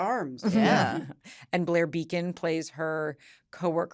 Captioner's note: all agreeing